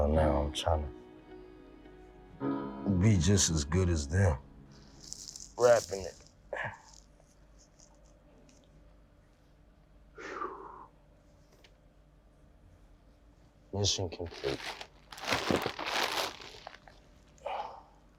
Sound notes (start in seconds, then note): 10.2 heavy sigh; 14.2 bag crinkling